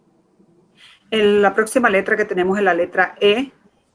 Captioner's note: speaking in Foreign Language